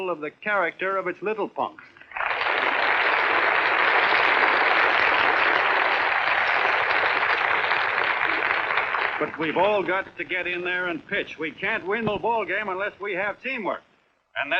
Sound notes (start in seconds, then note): 2.0 applauding